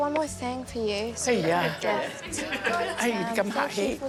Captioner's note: chuckles